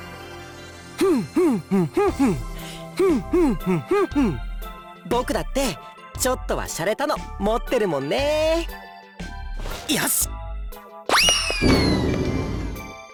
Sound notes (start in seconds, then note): 2.5 beatboxing